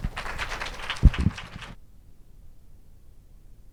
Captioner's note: audience applauds